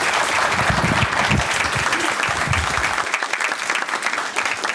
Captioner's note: audience applause